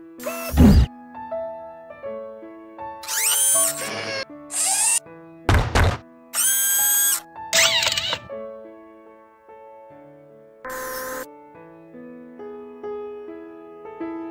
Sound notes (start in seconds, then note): 3.0 whirring; 5.1 stomping, Whirring